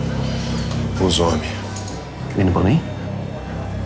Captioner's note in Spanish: Habla en portugués